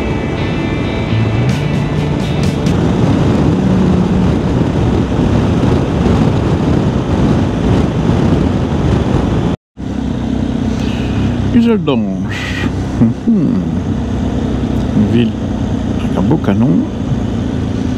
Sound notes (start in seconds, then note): 3.5 engine